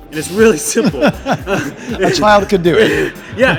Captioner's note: laughs